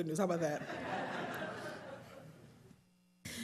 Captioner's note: laughing